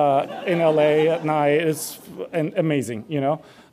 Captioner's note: audience laughs